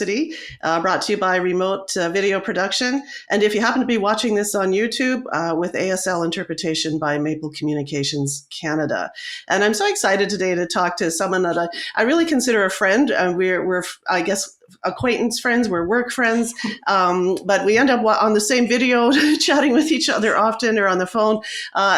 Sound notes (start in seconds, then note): 16.3 chuckles